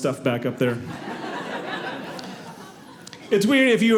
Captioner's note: audience laughing